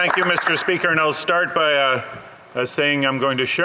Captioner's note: applause